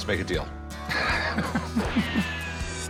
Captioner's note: chuckling; western music